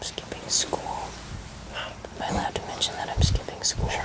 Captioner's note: whispering